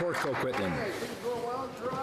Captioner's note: some Applause